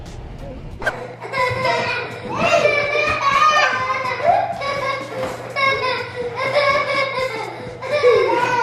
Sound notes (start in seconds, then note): 0.9 laughing